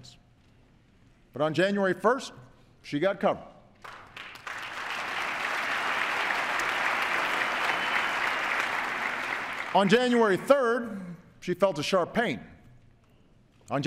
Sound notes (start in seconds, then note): 6.6 applause